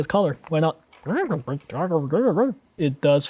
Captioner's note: Pengu indistinct chattering